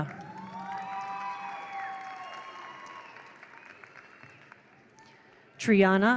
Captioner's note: attendees applaud; attendees cheer